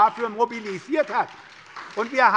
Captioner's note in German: Beifall bei der SPD